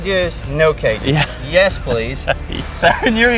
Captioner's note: laughs